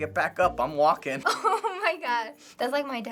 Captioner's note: laughing